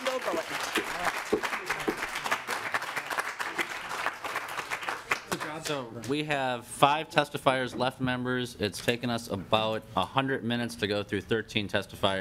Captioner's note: applause